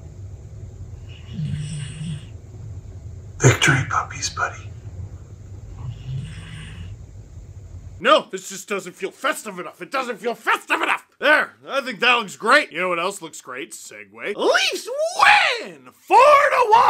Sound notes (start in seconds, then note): 5.8 snoring continues